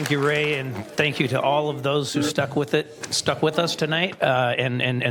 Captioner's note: applause